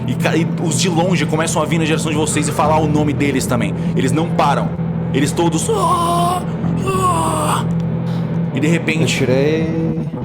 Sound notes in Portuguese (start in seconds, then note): 6.8 Grunhidos